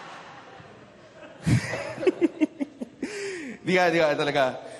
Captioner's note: laughter; chuckles